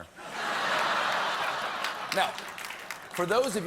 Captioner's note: laughter